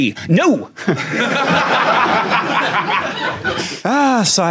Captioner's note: audience laughs